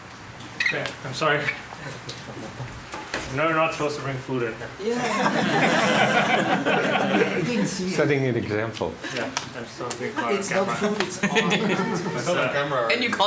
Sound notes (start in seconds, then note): 4.9 laughter